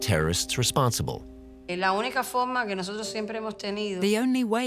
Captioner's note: speaking in Spanish